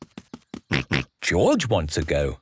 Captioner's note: snorts